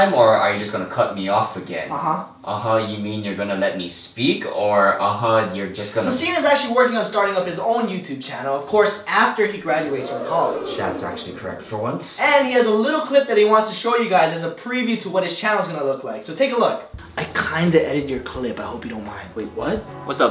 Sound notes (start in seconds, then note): 9.3 audience ooohs